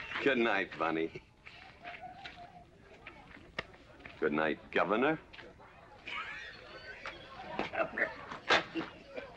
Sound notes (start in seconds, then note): 6.0 laughing